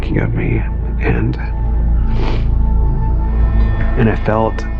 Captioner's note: snsnsnififf